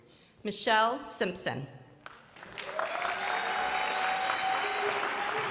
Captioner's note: crowd applauding